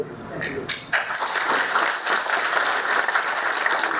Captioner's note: applause